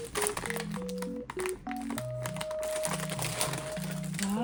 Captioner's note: pok-pok